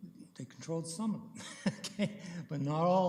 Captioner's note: chuckling